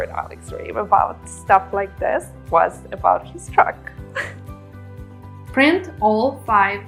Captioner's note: laughs